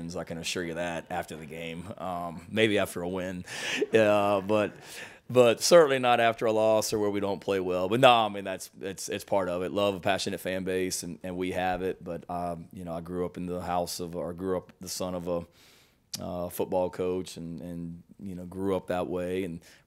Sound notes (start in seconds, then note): 3.6 chuckles